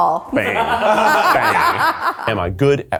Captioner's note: all laughing